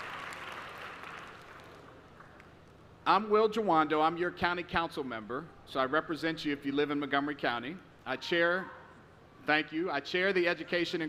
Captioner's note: applause